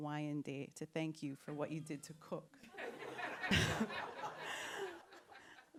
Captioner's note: laughter